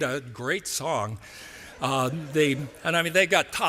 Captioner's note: laughter